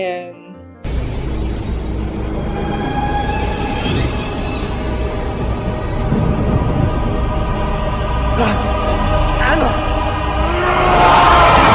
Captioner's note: horror music; werewolf growls